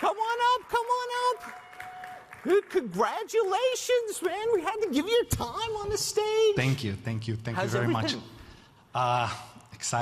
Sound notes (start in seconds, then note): 1.9 audience clapping